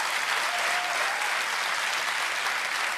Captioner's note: applause